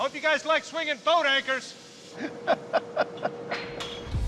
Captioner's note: laughs